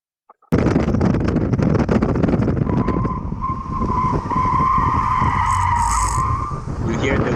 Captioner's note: tires screeching